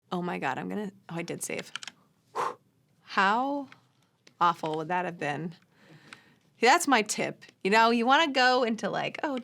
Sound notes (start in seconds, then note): 2.3 whew